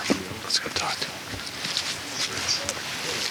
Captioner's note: whispers